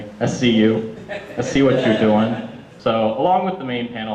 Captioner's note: audience laughter